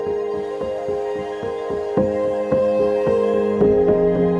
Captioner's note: water swishing